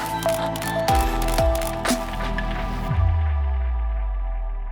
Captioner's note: camera flashing noises; new age pop music